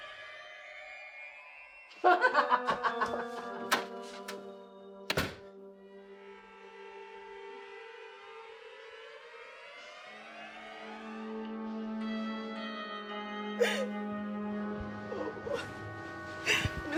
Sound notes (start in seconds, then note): 5.0 door clicks; 6.4 dramatic music; 13.5 Eleanor cries